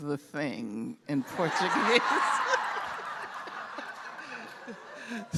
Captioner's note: laughter